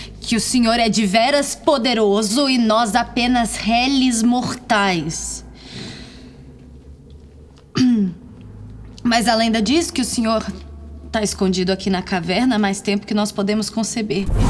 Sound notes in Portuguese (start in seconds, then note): 7.7 limpando a garganta